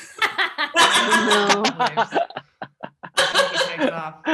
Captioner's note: all laughing